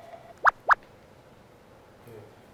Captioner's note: blup blup